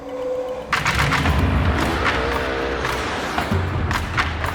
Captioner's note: bike roars; light rhythmic drums